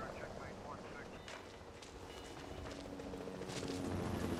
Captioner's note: helicopter flying